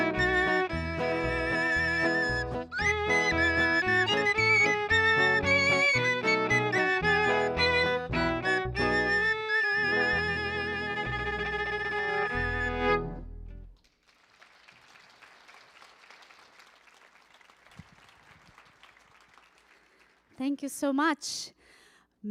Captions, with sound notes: [upbeat folk music continues] [audience applauding] Thank you so much.